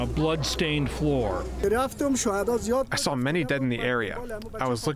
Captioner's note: through translator